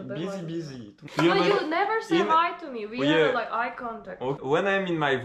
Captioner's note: Arguing